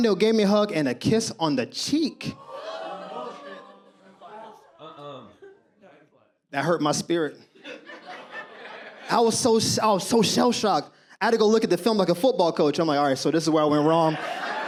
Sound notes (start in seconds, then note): 2.2 audience reaction